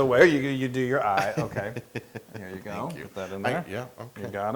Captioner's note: laugh